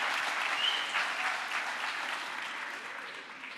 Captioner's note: crowd applause